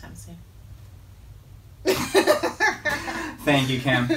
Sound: laughing

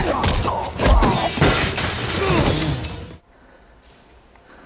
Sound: glass shattering

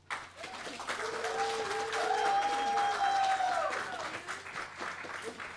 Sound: applause

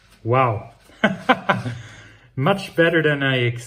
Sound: laughs

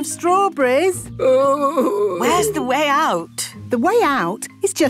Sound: groaning

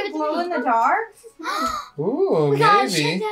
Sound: gasping

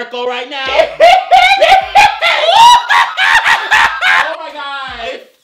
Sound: hysterical laughing

